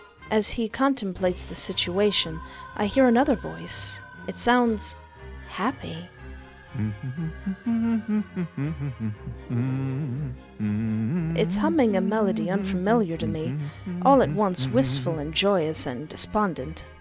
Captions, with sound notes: as he contemplates the situation I hear another voice it sounds happy [Adorable Humming] It's humming a Melody unfamiliar to me all at once wistful and joyous and despondent